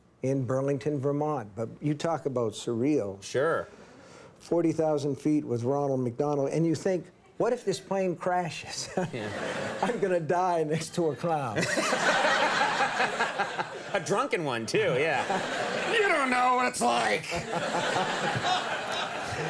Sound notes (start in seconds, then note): 8.9 Steve laughs; 10.9 audience laughs; 11.5 Conan laughs; 17.2 Steve laughs; 18.5 audience laughs